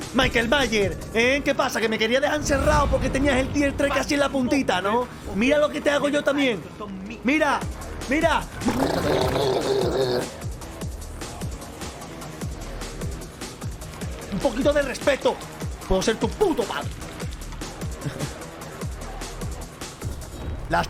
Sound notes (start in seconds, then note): 8.5 nodding helicopter sounds, or something; 18.0 chuckles in Spanish